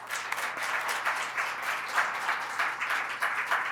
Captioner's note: applause